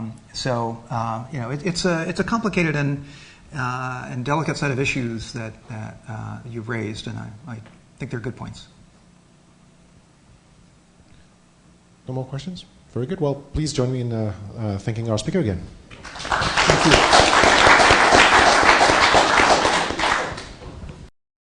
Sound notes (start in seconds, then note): 17.5 applause